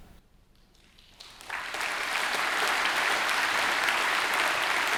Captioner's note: audience applauding